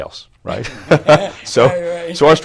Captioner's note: laughter